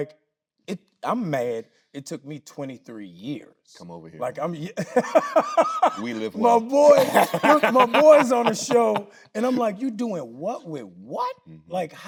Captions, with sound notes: like, I'm mad it took me 23 years. - Come over here, man. - Like, I'm, (laughing). - We live well. - My boy! (Tyler laughing) Look, my boy's on a show! And I'm like, you doing what with what?